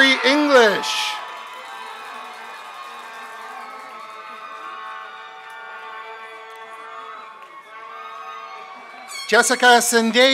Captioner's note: applause and cheers